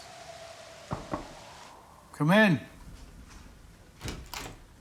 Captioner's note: knock on door